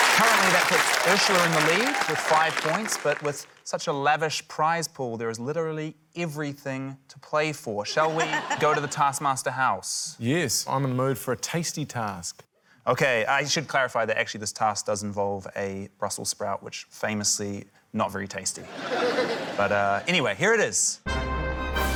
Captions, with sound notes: - Currently, that puts Urzila in the lead with five points. But with such a lavish prize pool, there is literally everything to play for. Shall we go to the Taskmaster house? - Yes. I'm in the mood for a tasty task. - OK. I should clarify that, actually, this task does involve a Brussels sprout, which famously not very tasty. (LAUGHTER) But, uh, anyway, here it is.